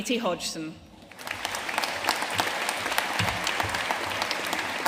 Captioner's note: audience applauding